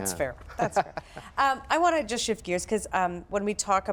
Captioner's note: laughs